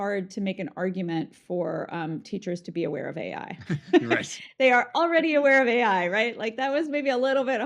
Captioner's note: both laugh